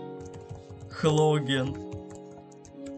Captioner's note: typing